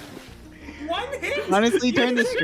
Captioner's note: laughs